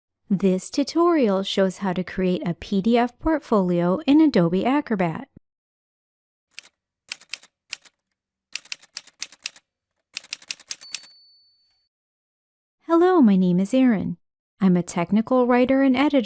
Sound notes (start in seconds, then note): 6.4 typewriter Sounds